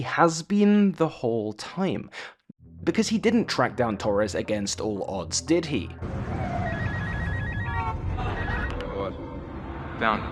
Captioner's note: phone rings